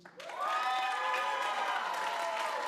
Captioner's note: applause